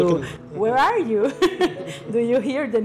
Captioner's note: laughter